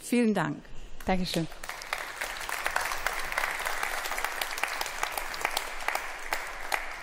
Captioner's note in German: Beifall